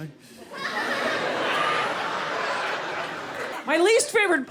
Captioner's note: laughter